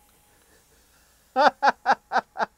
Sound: laughs

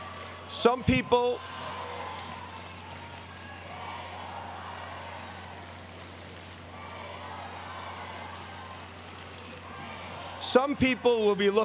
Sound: applause

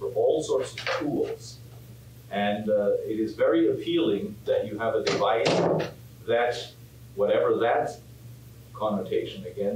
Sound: door slams

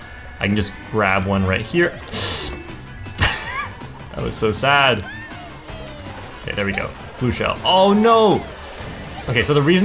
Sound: laughs

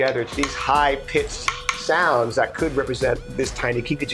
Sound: taps

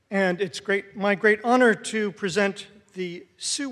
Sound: none

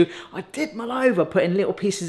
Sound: none

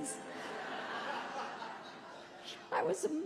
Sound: audience laughing

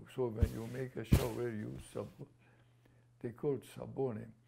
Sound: non-english; non-english

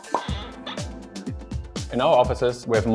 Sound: pop pop; door hinge

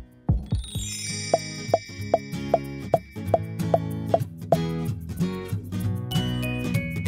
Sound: bright music; dots popping

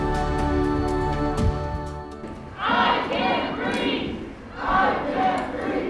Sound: crowd chants “I can’t breathe.”

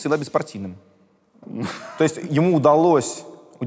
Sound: Dud laughs

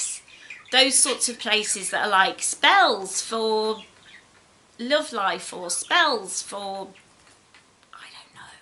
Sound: whispers

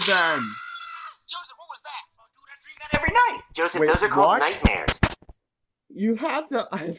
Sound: Joseph screams

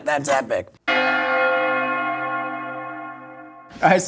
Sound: bell Ringing

